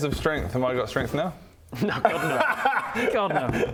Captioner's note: nice-try laugh